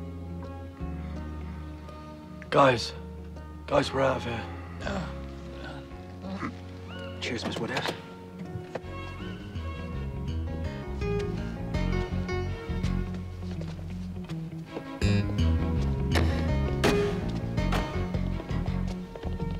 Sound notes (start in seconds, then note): 4.4 Fergus groans